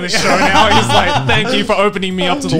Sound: laughing

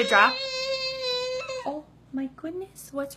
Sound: crying

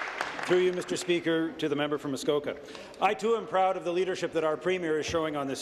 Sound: applause

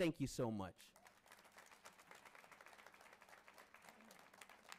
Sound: audience applauding

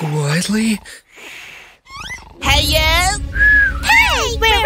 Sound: whistles

